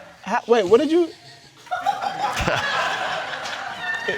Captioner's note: crowd laughing